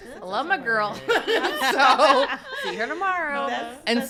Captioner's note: laughs